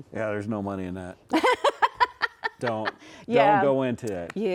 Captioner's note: laughing